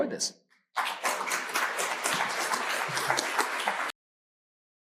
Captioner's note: audience applauding